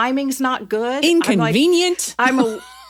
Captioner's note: laughs